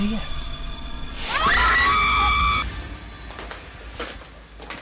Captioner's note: women screaming